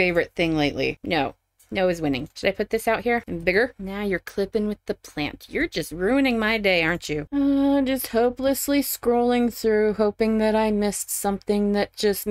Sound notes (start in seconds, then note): 7.4 sigh